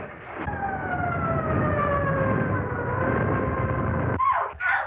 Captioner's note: police Sirens